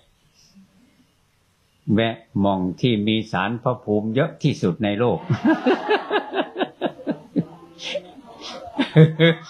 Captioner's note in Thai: เสียงหัวเราะ